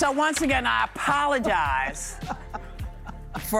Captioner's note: applause